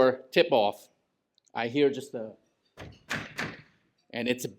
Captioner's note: knocks on wall